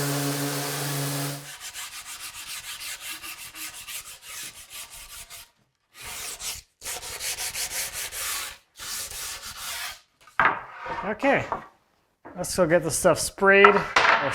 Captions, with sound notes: (sand paper scratching) Okay, let's go get this stuff sprayed,